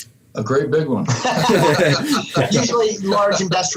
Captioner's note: everyone laughing